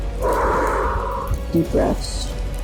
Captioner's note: exhales